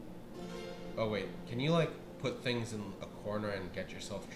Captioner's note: none